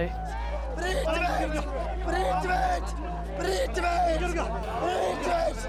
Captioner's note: shouts in foreign language